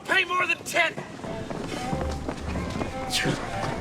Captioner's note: sighs